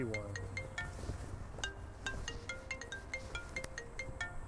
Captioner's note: phone ringing